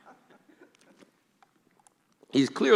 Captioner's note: laughing